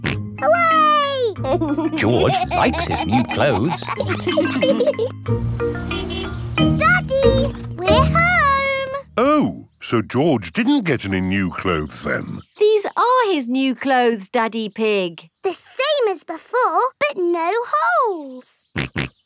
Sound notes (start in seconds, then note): 1.4 snorts and laughs; 5.8 horn honks; 19.0 snorts